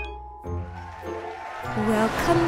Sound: cheering

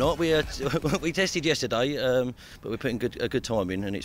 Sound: laughs

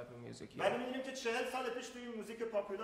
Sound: speaking in farsi

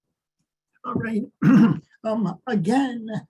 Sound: clears throat

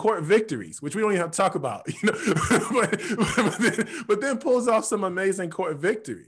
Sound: laughs

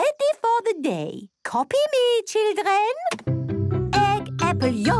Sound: clicks; singing

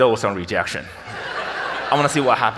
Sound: audience laughs

